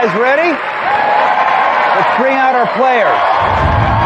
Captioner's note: cheering and applause